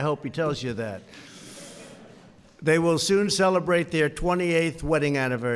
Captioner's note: laughter